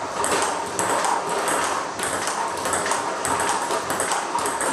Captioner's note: ball ping pong hitting continues